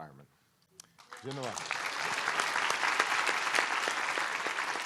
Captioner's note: applause